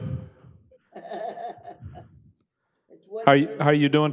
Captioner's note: laughing